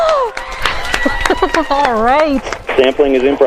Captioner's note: cheering